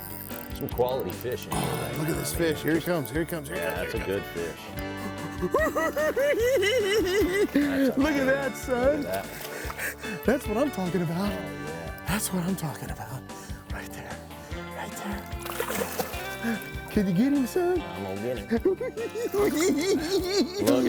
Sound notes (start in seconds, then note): 4.6 cackling